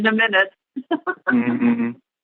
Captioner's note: laughter